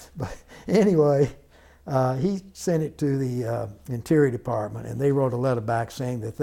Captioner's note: laughter